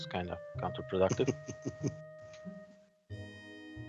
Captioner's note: sniggering